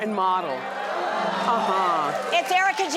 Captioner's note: audience cheers; twinkling music